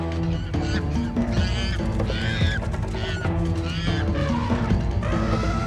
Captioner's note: monkeys screeching; elephants trumpeting